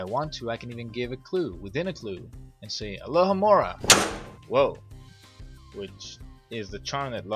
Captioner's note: door closes